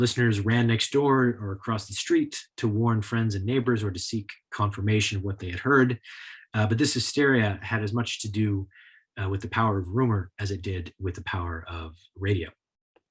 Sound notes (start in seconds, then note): none